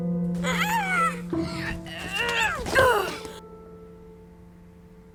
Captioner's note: grunting, shouting